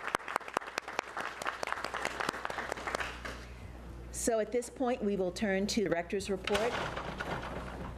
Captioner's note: applause